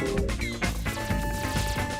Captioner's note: bell ringing